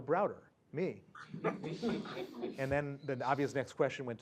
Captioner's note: laugh